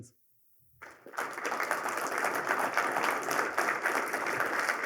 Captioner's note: applause